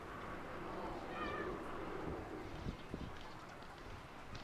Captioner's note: muffled children playing